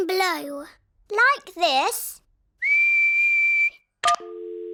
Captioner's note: whistles; dial tone beeping